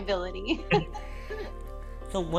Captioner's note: laughs